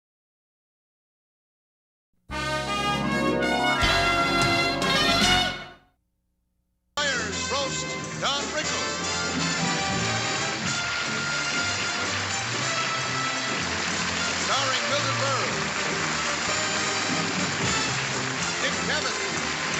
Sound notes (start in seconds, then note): 2.4 audio logo; 9.3 applause